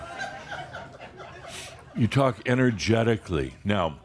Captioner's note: some laughter